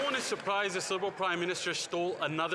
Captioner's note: some Applause